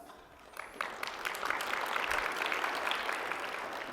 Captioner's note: applause